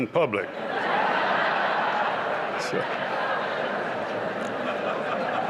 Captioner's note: laughter